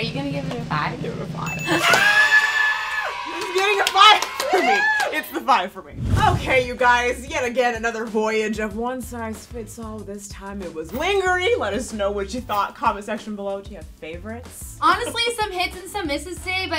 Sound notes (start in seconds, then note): 1.6 cheering; 11.0 purposefully mispronounced